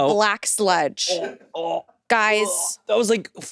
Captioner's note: groans